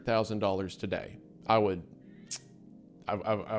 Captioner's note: clicks tongue